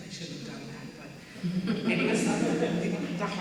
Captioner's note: audience members laughing